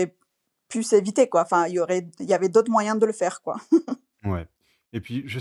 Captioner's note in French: rires